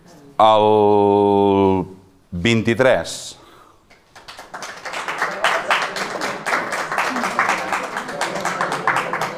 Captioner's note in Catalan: Aplaudeixen uns quants